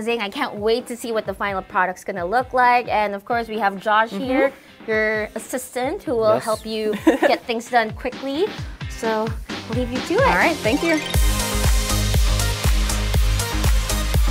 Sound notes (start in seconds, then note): 6.7 laughs